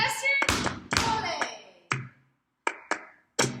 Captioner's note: stomp stomp